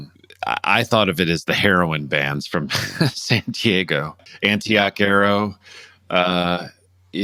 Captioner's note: laughter